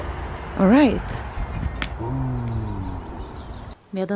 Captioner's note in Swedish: ljudeffekt: ooh!